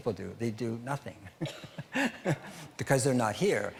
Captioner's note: laughing